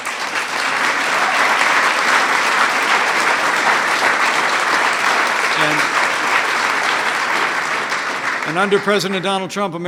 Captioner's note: applause